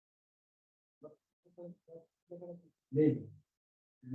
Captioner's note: speaking dari